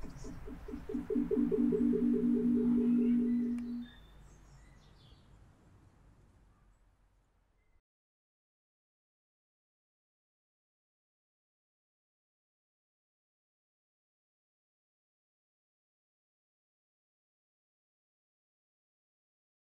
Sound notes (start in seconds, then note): 1.3 reverb